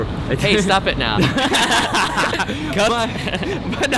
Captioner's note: laughing